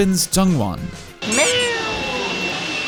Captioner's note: meow